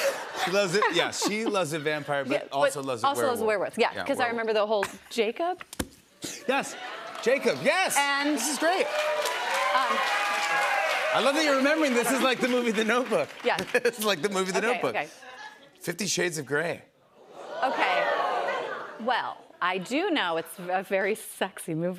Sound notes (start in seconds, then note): 0.0 laughter; 9.1 cheers and applause; 17.9 audience "Oohs"